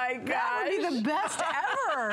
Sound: laughter

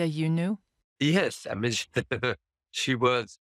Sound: chuckles

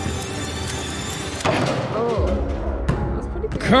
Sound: ball thudding; ball bouncing

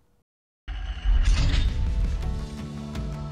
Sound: screen clanging; upbeat music

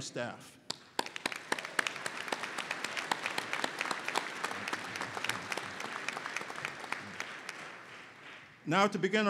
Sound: applause

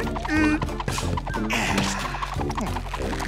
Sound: humming; sighs

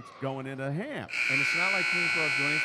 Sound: buzzer dings

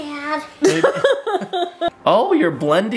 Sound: laughing

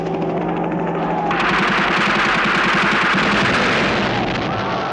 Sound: gunfire

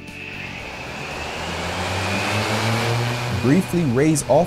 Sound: blades whirring

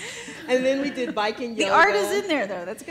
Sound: laughs

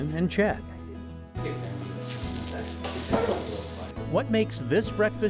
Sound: sound of griddle sizzling

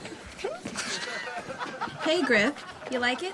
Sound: Brett laughs; crowd laughs

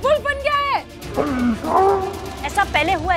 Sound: grunting

